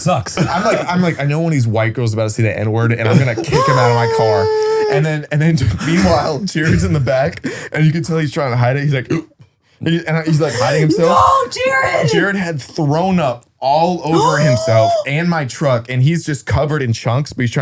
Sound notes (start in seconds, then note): 10.3 gasps